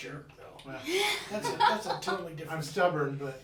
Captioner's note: laughing